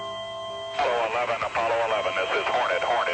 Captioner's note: voiceover